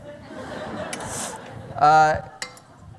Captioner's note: laughter